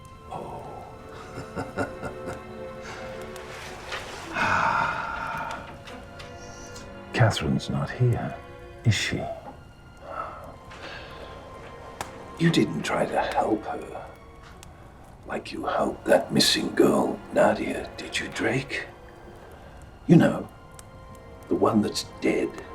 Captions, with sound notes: Oh. (laughing) Katherine's not here is she? You didn't try to help her like you helped that missing girl, Nadia, did you Drake? You know the one that's dead.